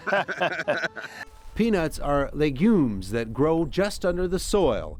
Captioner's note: laughs